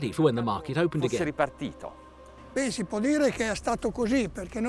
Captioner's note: speaks Italian